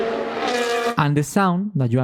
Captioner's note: engine sound